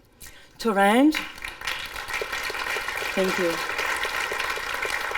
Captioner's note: clapping